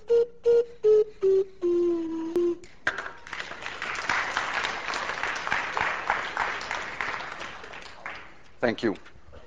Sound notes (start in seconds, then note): 2.8 class applauds